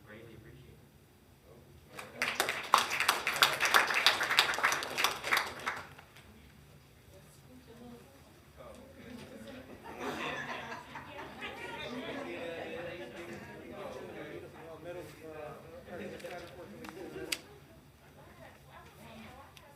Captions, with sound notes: we greatly appreciate it. (hands clapping) (graduates chattering) (graduates laughing)